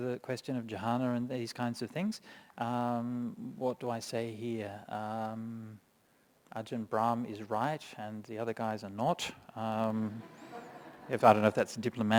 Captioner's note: laughter